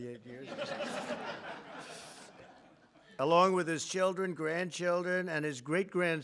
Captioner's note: laughter; laughs